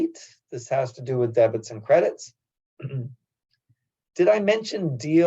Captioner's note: cough